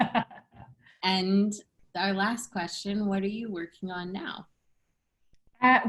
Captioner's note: laughter